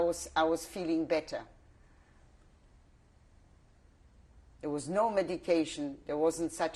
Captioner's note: pauses for 3 seconds